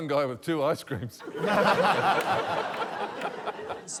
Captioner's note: laughter